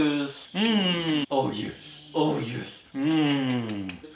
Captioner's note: kisses